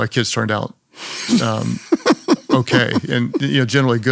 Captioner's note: Priscilla laughs